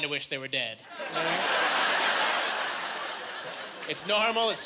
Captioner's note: laughing